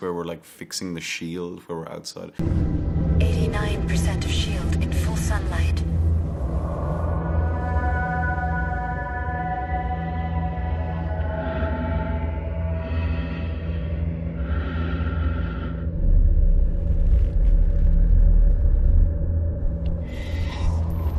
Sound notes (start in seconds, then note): 6.7 foreboding music; 11.0 Kaneda breathing